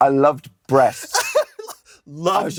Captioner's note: out of breath